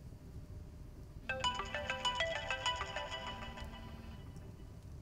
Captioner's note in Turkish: Telefon çalıyor